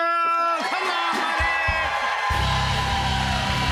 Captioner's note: cheers and applause